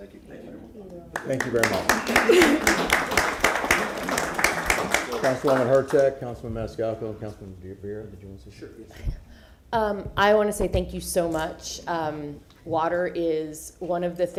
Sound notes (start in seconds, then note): 3.9 applause